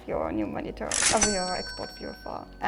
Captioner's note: cash register cha-ching